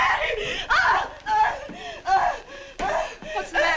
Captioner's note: sara howling